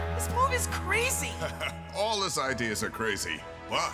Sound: chuckling

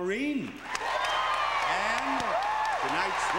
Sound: cheering

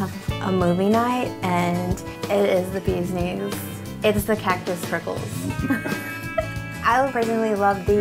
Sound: giggles

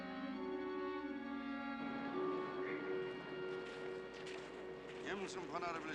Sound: Russian

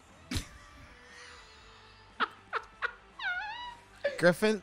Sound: laughing

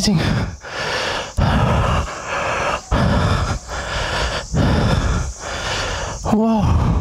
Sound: deep breathing

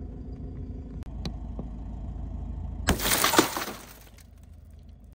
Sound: glass shattering

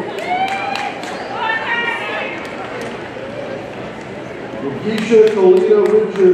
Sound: audience cheers and applauds

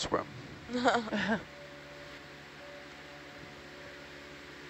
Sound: people chuckle

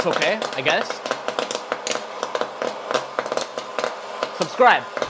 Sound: corn popping

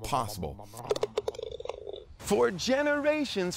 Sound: golf ball trundling

